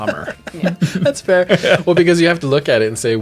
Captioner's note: laughs